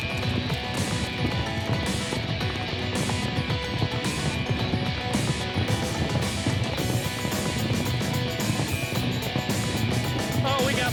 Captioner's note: rapid hoof beats